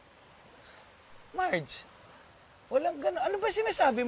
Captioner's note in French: sighs